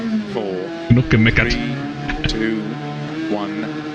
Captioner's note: laughs